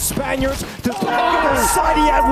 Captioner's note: team yelling